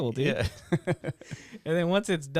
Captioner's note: laughing